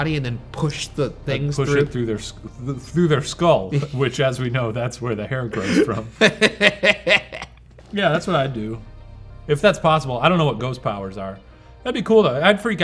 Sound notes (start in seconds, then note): 5.5 laughing